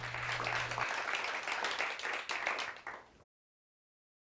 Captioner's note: applause